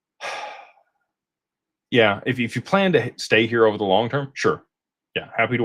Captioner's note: sighs